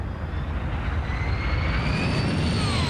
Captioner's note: aircraft noise